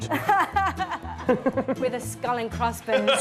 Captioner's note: chuckles